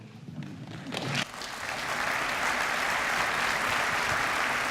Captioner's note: applause